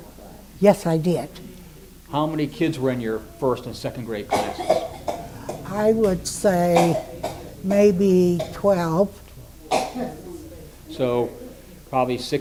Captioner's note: coughing in the background